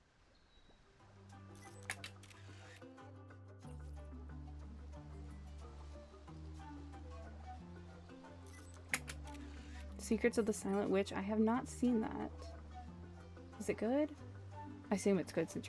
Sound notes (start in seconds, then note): 8.9 camera clicks